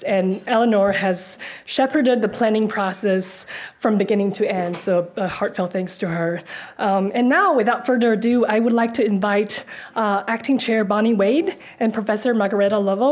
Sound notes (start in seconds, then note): none